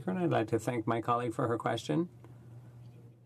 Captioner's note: speaking French